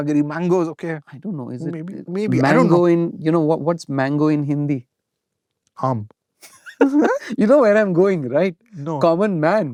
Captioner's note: laughter